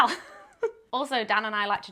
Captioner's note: laughs